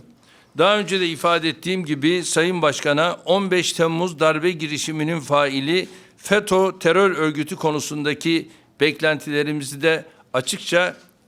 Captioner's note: speaking Turkish